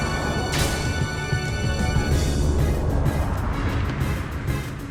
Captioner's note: sword clacking